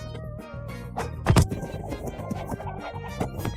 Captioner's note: laughing hysterically